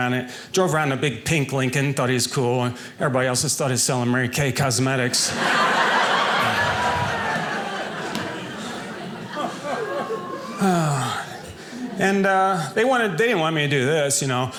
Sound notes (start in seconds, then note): 5.1 audience laughing